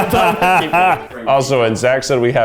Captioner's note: laughs